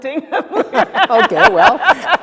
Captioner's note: laughs